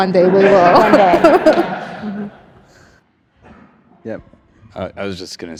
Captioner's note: audience laughs